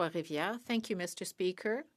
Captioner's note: speaking French